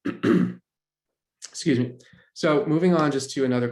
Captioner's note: clears throat